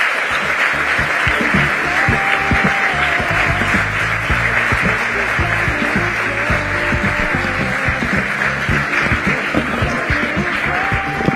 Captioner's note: applause